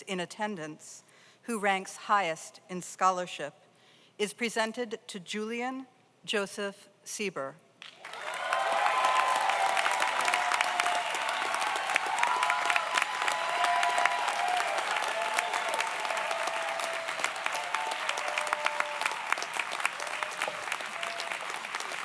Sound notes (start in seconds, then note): 8.2 audience applauds; 8.2 audience cheers